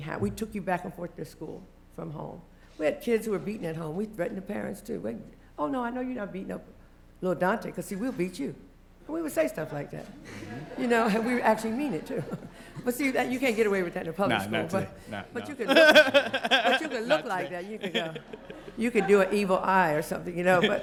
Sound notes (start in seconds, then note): 10.2 laughter; 14.6 laugh